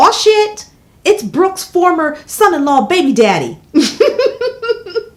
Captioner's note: laughs